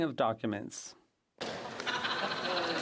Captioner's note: speaking French